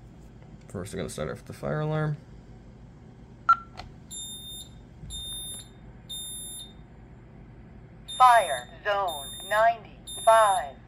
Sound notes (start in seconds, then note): 4.0 Code 3 Beeping; 4.2 beep